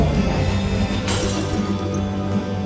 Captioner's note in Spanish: Cristales rotos